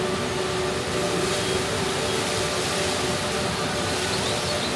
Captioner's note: water spraying